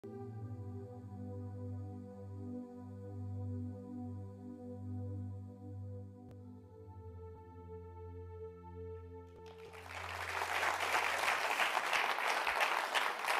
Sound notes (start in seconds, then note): 0.3 ethereal music; 9.4 attendees applauding